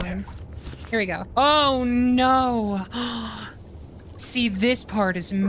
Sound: gasp

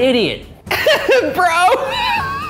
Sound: laughing

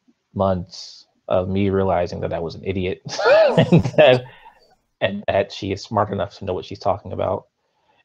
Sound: laughs

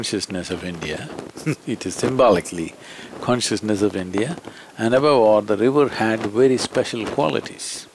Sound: laughs

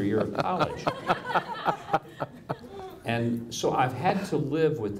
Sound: audience laughs

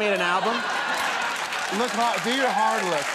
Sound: audience laughing

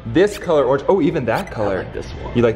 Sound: electronic beeping

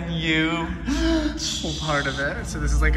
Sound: shushing

